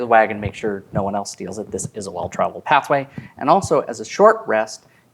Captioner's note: none